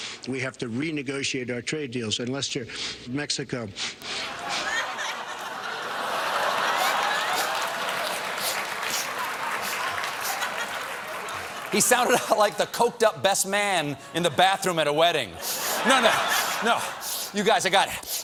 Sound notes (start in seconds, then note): 6.4 laughter; 6.4 sniff, sniff